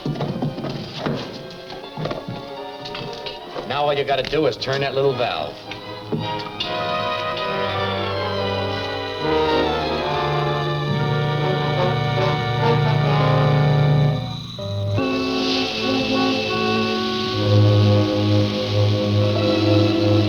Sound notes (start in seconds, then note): 0.2 suspenseful music; 6.7 gas hissing; 6.7 suspenseful music; 15.1 gas hissing; 15.1 ominous music